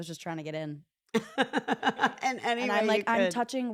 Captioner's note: laugh